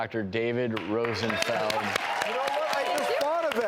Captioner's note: audience claps